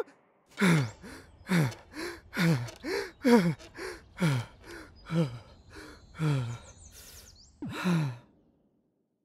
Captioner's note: heavy breathing